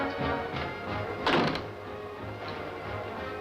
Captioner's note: door closes